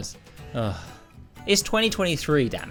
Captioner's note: sigh